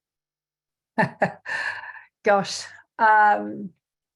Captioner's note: chuckles